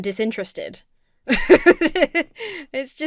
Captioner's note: laughs